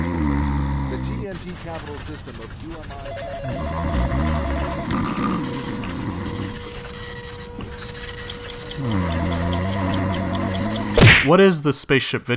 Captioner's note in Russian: храпение становится громче; храпение и звуки суетливой офисной работы